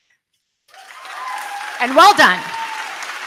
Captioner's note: crowd cheering; crowd clapping